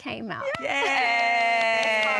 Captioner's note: cheering